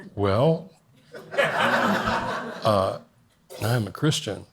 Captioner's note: audience laughs